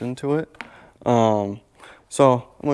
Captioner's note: logo thudding softly